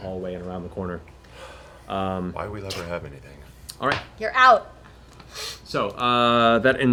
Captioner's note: none